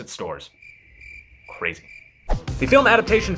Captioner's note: crickets chirping